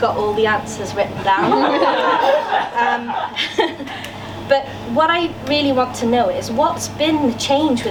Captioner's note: laughter from audience